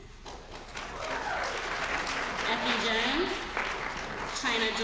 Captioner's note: applause